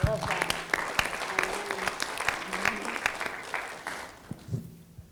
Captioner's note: audience applauding